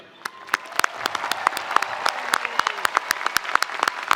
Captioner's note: spectators applauding